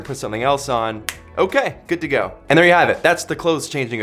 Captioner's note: snapping sound